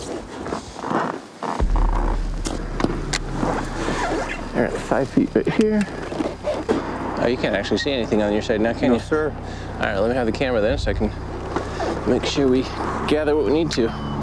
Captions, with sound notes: (boat squeaking) All right, 5' right here. Oh, you can't actually see anything on your side now can you? - No, sir. - All right, let me have the camera then so I can make sure we gather what we need to.